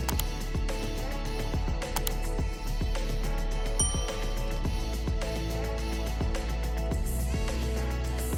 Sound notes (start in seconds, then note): 0.1 computer mouse clicking; 3.8 bell dings